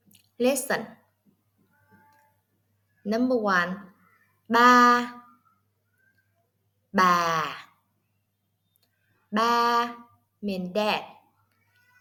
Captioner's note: Vietnamese